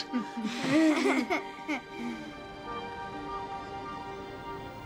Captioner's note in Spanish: incómodo riendo